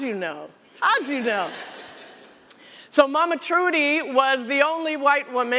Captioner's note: laughter